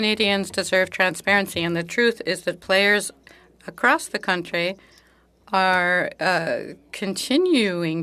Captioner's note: speaking French